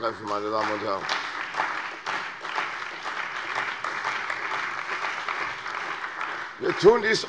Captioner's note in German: Beifall bei der CDU und dem BÜNDNIS 90/DIE GRÜNEN